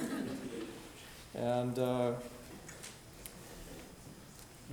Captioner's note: audience chuckling